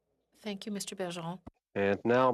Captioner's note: speaking French